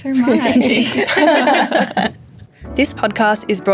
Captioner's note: laughing